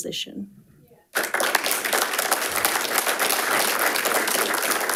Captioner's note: audience applauding